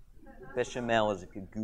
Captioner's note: audience chuckles